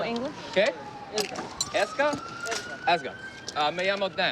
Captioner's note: speaking spanish